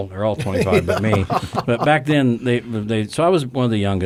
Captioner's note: men chuckle